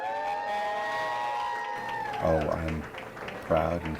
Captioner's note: crowd cheering